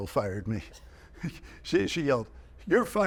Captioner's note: chuckling